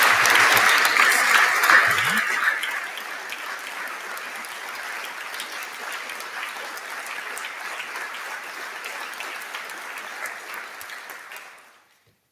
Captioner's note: applause